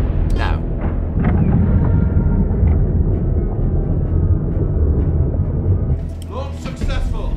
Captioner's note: doors whirring; rover droning